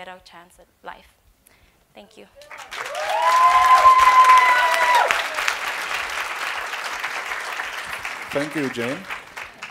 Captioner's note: applause